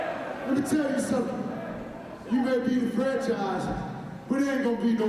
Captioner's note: crowd cheering